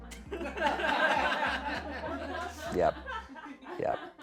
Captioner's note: people laugh